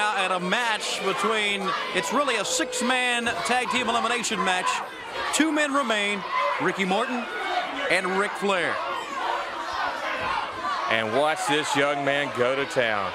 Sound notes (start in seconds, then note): 9.0 crowd cheering